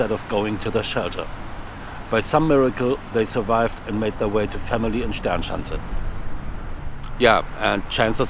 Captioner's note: air raid